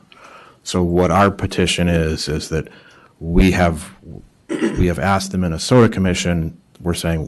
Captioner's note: clears throat